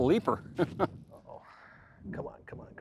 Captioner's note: laughs